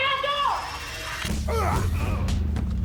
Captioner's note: grunting